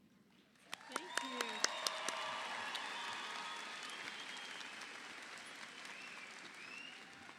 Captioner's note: audience applauding